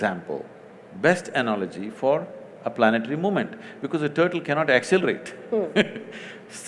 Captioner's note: laughs